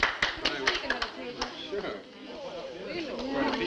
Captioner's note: everyone talking